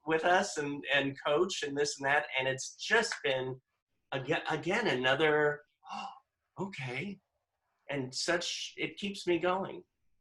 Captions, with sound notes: with us and coach and this and that? And it's just been, again, another (gasps) okay, and such, it keeps me going.